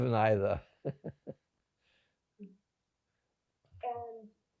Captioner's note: laughing